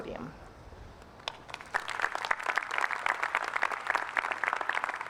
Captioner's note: applause